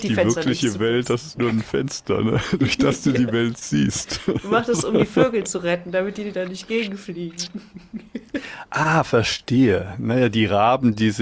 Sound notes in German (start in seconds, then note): 0.0 gelächter; 3.8 gelächter